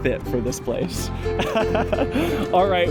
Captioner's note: laughter